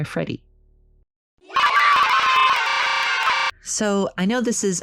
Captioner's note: horribly distorted children cheering